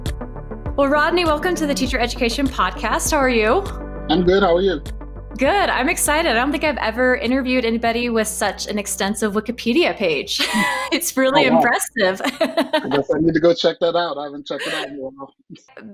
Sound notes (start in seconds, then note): 10.4 laughing